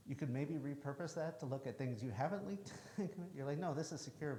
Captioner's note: chuckles